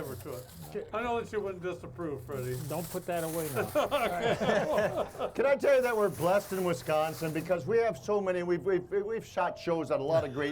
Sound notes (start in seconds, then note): 3.6 all laughing